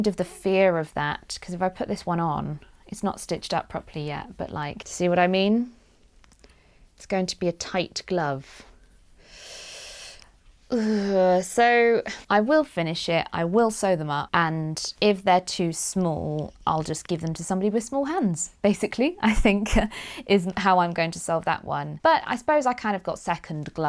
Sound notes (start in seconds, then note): 10.7 sighs